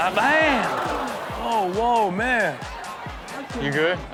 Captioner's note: audience gasps